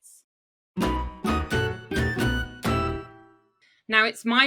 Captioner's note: logo chiming